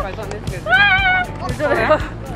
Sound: exclamation

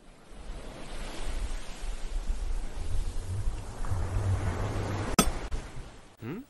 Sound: ocean sounds; pickaxe hits stone

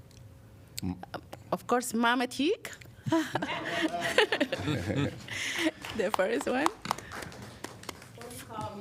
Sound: laughter

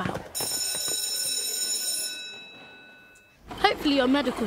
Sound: sound of School Bell

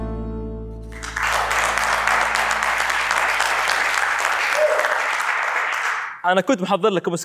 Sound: clapping

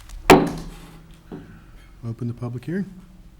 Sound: gavel taps

